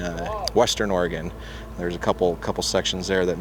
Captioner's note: none